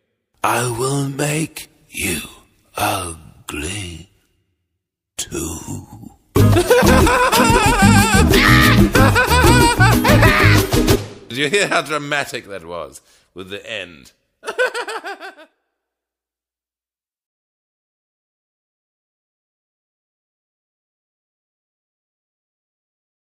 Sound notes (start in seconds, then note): 6.4 laughs maniacally; 14.4 laughs maniacally